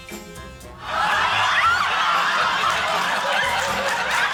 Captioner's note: shocked laughter